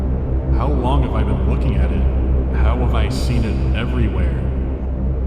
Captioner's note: echoing